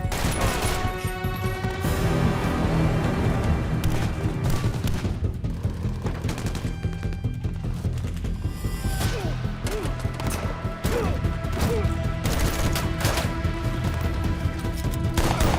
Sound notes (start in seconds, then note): 0.1 glass shatters; 3.8 gunfire clacking; 9.3 gunman grunts; 12.2 gunfire clacking